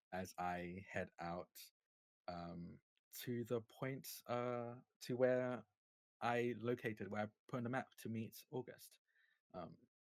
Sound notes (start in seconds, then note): none